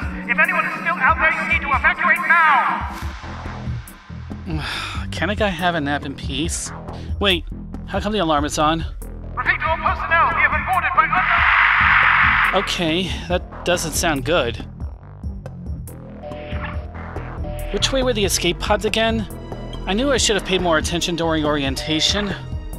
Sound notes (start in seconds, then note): 9.0 loudspeaker; 10.8 static